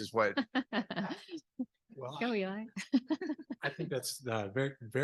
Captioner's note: laughs